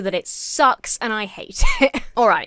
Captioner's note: chuckles